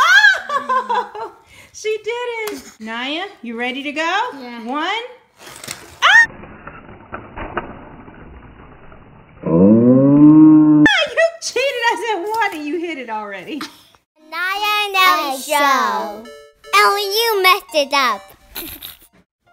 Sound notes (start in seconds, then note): 0.1 laughing; 5.3 voiceover; 6.0 squeal; 6.3 slow motion sounds